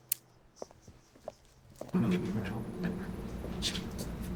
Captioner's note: heels clicking